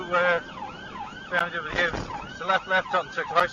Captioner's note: car clunks over speed bump